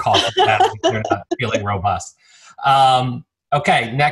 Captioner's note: speaking faintly